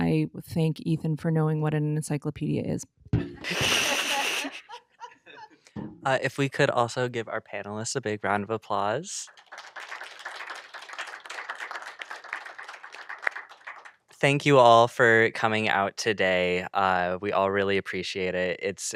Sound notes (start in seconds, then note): 3.2 laughter; 9.0 applause